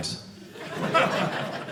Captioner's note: audience laughing